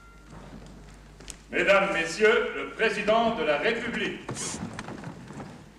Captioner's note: speaking french